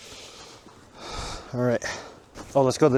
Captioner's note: sighs